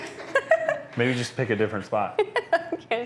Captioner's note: laughing